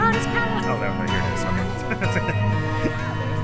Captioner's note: giggles